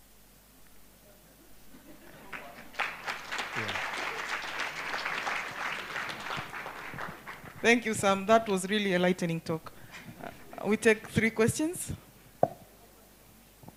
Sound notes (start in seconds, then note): 2.0 applause